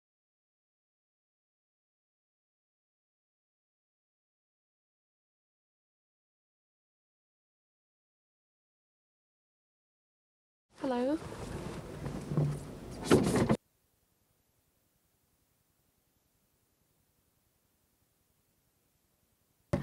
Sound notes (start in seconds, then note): 9.9 speaking turkish